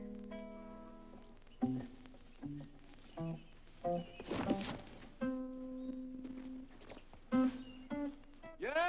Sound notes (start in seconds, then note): 3.9 shoe thuds